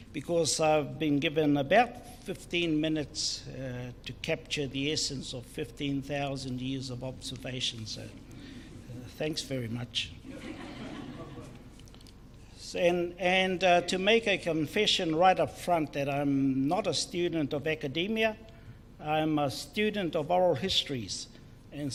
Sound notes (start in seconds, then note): 10.2 crowd laughs